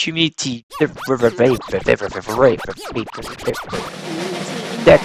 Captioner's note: imitates record scratching; drumroll